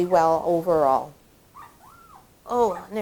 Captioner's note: puppy whimpering